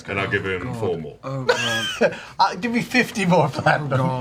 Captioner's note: laughs